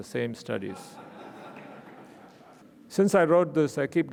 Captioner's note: audience laughing